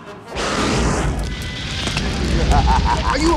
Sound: fire sizzling; Jafar laughs evilly

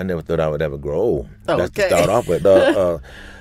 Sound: laughs

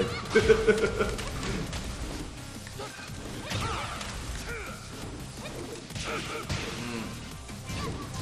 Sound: laugh; laugh

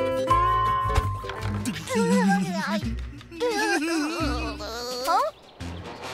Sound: laughing

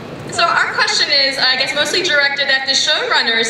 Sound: voiceover

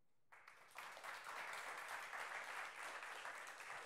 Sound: applause

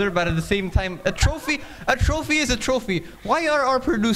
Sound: laughing

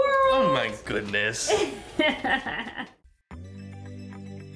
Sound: laughing

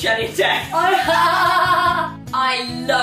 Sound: both laughing

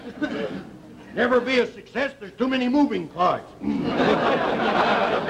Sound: audience laughter

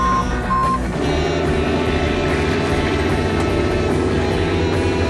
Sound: truck beeping; engine roaring; upbeat music

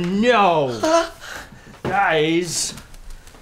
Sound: Michael gasps

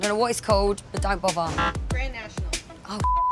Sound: buzzer

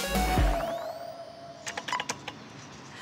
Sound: beep!

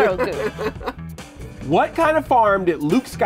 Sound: laughs

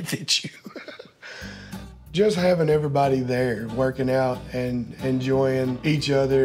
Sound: laughs

